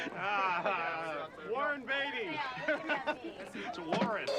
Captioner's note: laughter